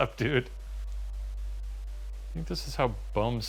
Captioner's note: white noise